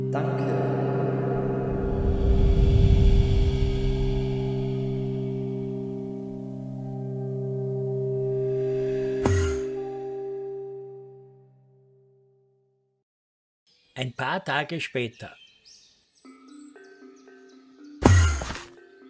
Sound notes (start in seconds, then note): 9.2 warp; 13.7 birds chirping; 17.9 warp